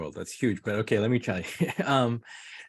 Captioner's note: chuckles